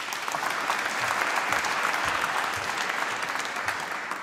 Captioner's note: applause